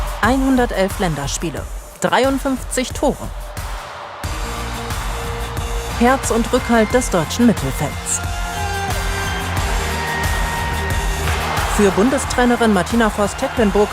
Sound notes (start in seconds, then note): 8.4 applause